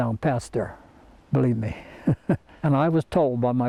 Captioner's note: laughs